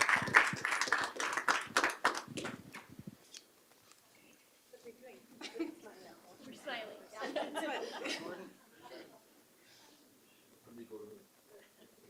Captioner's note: applause